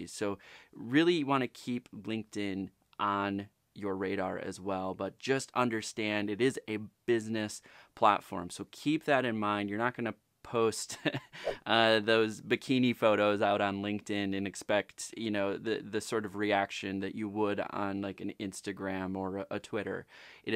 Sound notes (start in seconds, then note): 10.9 chuckles